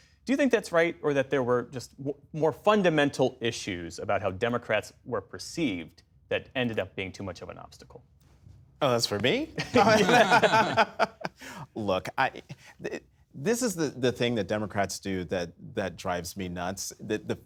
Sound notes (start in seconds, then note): 11.7 laughter